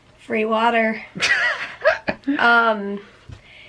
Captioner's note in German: lachen